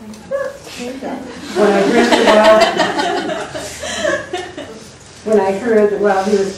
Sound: laughter

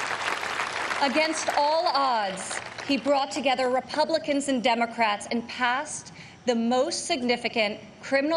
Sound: applause

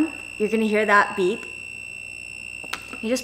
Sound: egg cooker beeps

